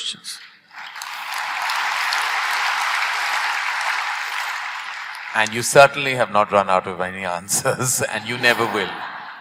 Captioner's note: applause; laughter